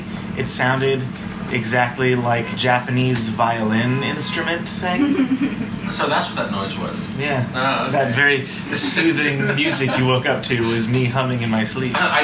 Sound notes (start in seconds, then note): 4.9 chuckles; 8.6 laughs